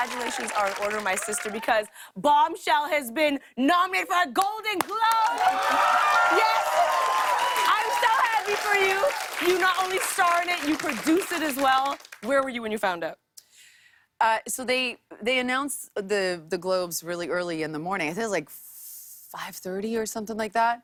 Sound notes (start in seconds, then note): 4.8 cheers and applause